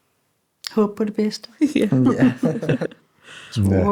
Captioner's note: chuckles